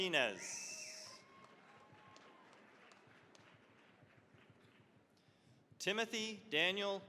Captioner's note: cheering, applause